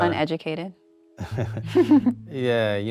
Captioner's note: chuckling